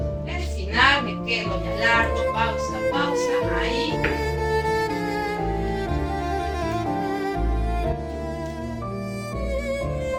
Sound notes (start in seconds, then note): 0.2 classical music; 3.8 knocking at the door; 6.4 classical music